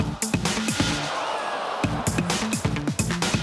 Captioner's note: audience gasps